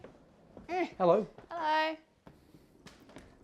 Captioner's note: effort noises